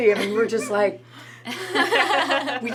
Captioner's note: gasp; laughs